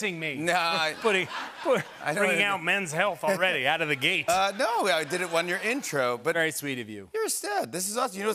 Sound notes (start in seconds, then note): 3.8 laughter